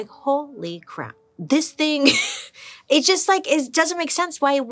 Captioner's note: chuckles